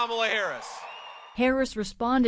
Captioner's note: cheering